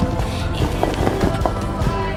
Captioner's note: sound of shoulders clashing